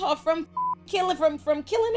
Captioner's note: beep